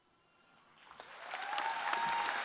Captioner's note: cheers and applause